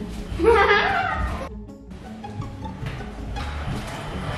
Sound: child laughing

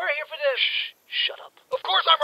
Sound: whispers

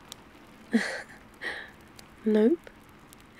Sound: laughs

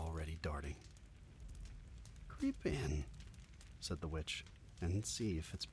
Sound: steady flame sounds

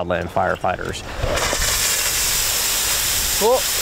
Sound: water spraying

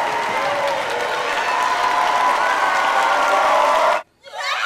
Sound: crowd cheering

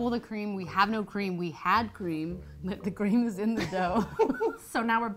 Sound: laughs

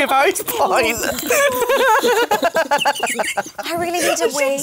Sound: laughter

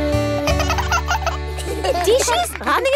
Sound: both laugh

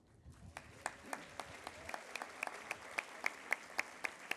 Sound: applause

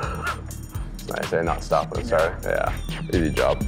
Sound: laughing

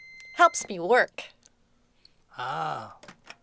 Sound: microwave beep

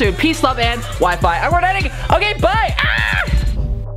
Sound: screeching

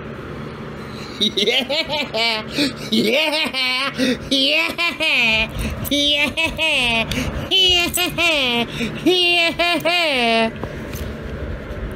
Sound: laughing; continues laughing

